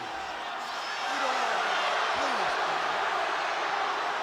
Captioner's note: crowd boos